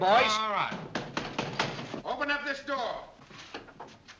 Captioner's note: pounding on door